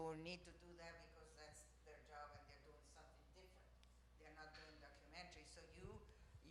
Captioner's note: speaking faintly